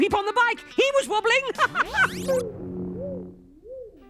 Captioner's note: laughing